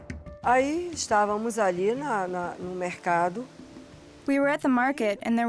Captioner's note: speaking Portuguese